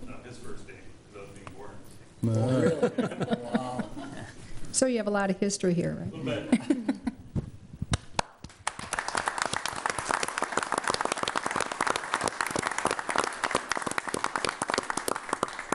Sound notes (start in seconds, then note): 2.3 crowd laughs; 8.4 audience applauding